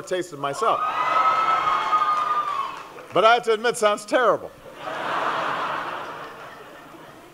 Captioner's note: laughter